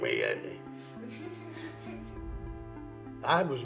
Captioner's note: laughing